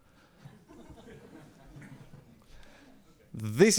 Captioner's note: laughs